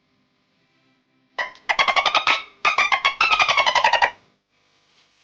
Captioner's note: animal Sound